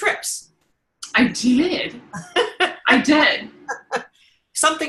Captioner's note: laughing